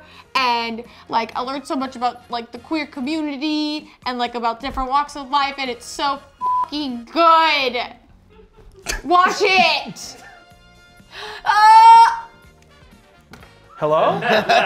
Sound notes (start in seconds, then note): 6.4 beep; 11.4 screams